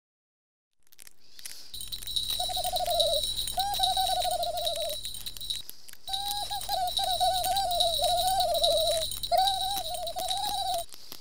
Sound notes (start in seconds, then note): 0.9 fire crackling; 5.7 Smelf giggling and bells jingling